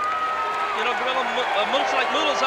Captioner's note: audience cheering